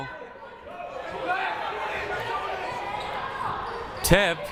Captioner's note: crowd murmuring